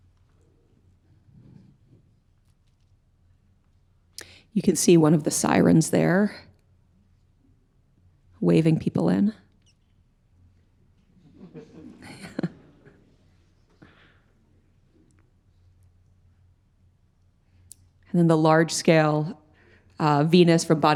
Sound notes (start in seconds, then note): 11.7 audience tittering